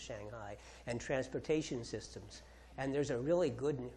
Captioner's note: none